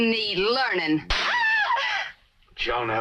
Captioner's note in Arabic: جودي تصفع; جونيل تصرخ